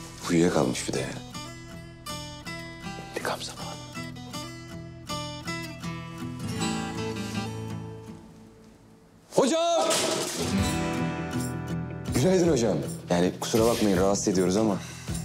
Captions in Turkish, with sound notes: Uyuyakalmış bir de ya. İntikam zamanı. (Bağırarak) Hocam! Günaydın hocam. Yani kusura bakmayın, rahatsız ediyoruz ama.